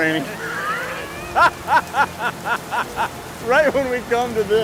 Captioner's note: laughing